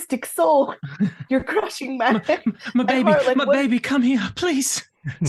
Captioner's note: chuckles